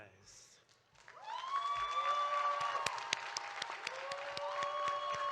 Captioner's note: audience applauding